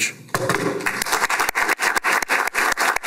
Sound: applause

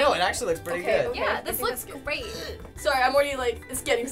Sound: gagging

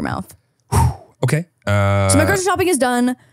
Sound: exhales

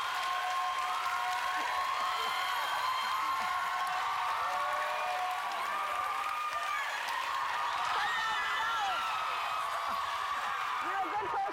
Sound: cheers and applause

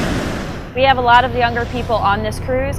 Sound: ocean waves

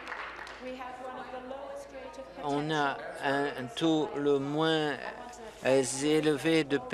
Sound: applause

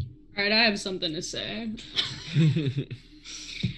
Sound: laughs

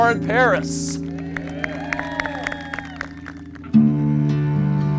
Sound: audience cheers

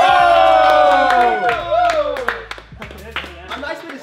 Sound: members cheer

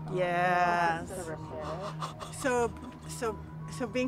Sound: chuckling fearfully

